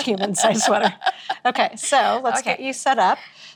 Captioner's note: laughing